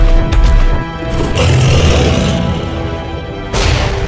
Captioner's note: beast grunts; claw thuds